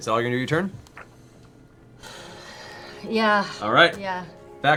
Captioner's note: sighs